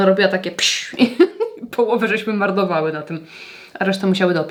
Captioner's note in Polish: śmiech